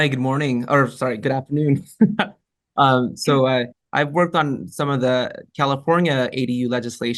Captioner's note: laughs